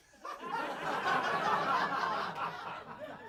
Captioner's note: audience laughing